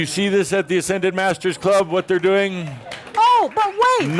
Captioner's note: audience applause